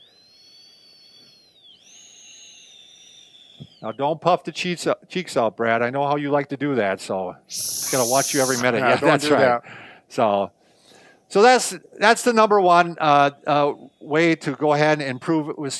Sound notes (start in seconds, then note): 0.2 sharp inhale; 7.5 sharp exhaling